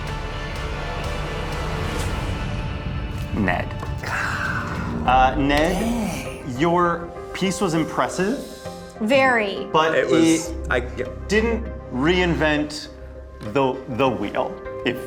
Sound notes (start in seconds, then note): 0.1 suspenseful music; 4.1 gasping